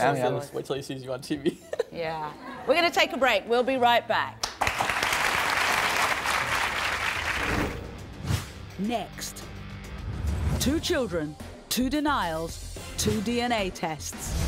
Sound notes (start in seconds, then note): 4.4 audience applauding; 8.9 voiceover